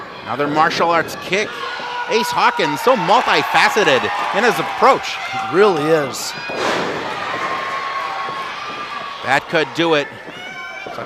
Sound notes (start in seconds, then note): 2.3 yells; 6.3 thud; 7.6 crowd cheers